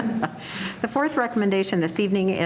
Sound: laughing

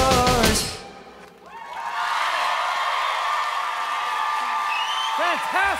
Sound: applause

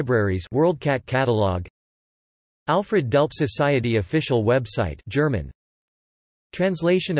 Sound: German

